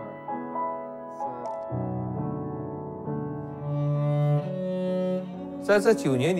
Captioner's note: speaks in Chinese language; gentle piano music; camera clicks; speaks in Chinese language